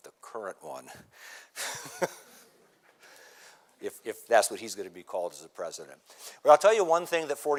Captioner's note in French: rires